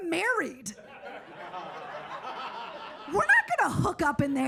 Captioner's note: audience laughs